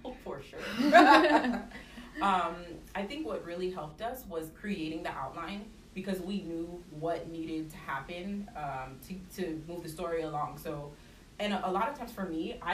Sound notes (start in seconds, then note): 0.6 laughter